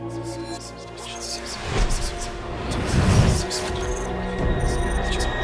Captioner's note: whispering voices overlapping